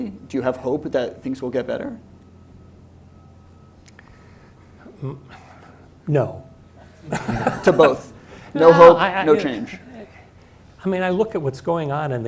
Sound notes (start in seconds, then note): 7.0 laughs